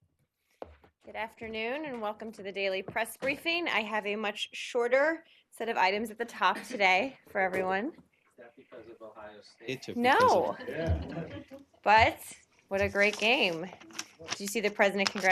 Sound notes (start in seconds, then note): 12.1 laughter